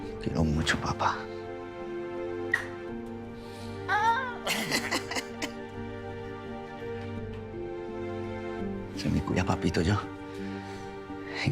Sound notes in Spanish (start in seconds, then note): 4.4 Risas